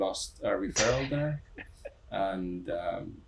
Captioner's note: chuckling